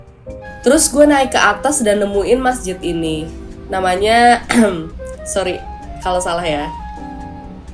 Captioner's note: ahem